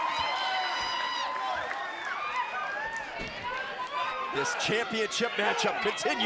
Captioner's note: crowd cheering